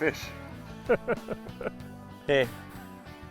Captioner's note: laughter